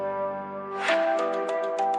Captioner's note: gentle music; air whooshing